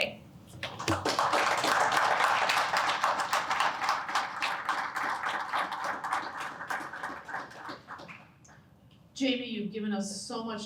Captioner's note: applause